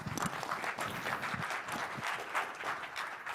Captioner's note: applause